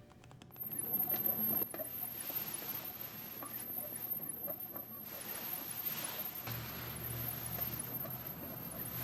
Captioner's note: wheel spinning